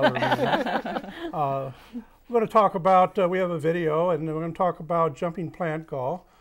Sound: laughing

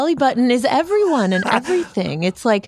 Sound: laughs

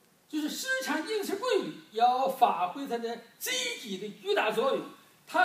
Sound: speaking foreign language

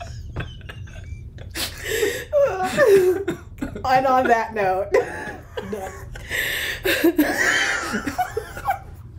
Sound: laughter

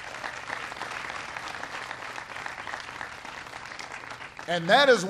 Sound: applause

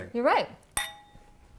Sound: clink

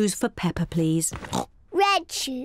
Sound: oinks

